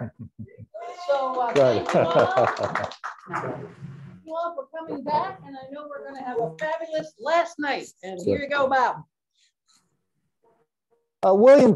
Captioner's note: clapping